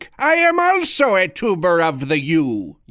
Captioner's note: none